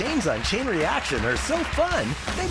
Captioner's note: applause